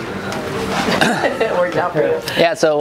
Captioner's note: laughs